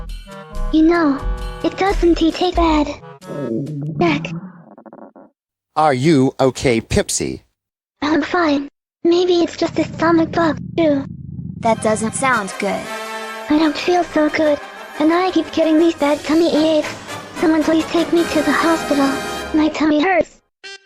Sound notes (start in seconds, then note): 3.2 groaning; 3.2 tummy Grumbles; 9.4 tummy Grumbles